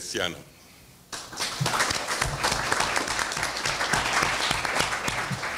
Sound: audience applauds

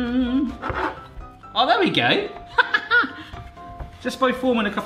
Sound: laughs loudly

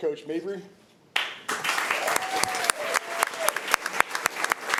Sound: applause

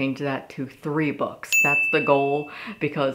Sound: ding

